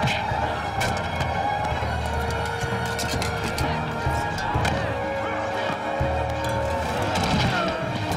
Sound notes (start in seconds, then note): 0.4 punch; 5.6 thud